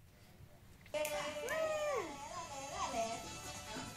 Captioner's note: shouts; cheerful music